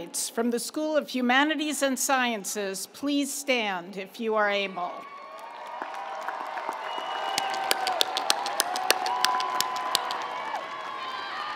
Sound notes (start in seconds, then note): 5.0 audience cheering; 5.1 audience applauding